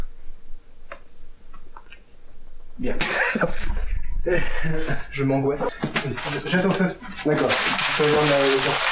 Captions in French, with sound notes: -Bien. *Rire* -Je m' angoisse.